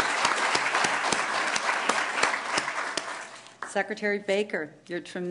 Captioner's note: applause